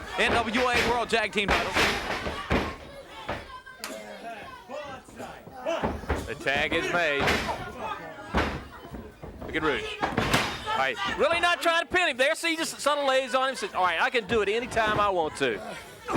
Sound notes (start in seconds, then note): 0.0 knees thudding; 3.9 hands clapping; 8.3 knees thudding